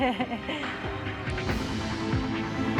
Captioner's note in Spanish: risas